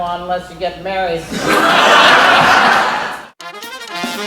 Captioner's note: laughter